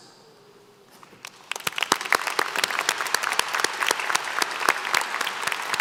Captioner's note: applause